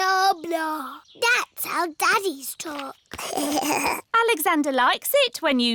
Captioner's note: alexander giggles